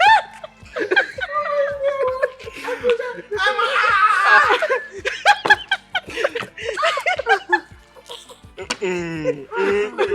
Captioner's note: everyone laughs